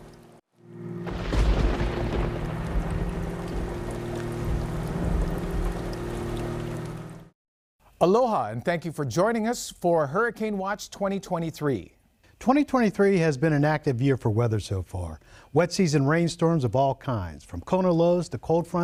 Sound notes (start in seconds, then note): 4.0 thunder rolling; 6.6 rain falling